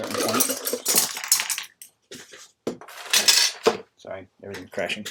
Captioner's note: clanking